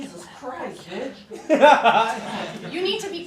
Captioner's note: laughter